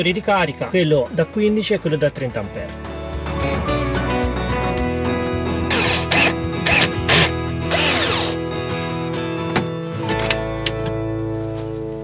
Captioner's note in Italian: Applauso